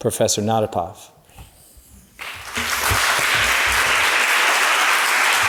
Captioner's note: applause